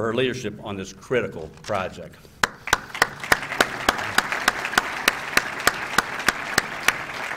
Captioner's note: applause